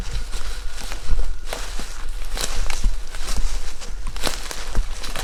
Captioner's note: dry leaves rustling